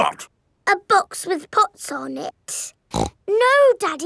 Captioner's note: snorts